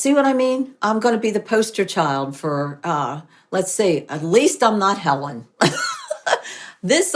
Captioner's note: laughs